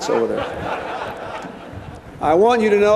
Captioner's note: laughter